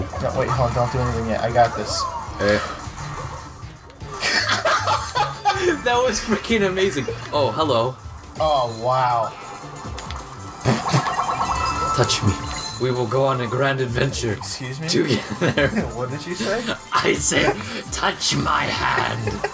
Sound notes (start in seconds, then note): 4.1 historical laughter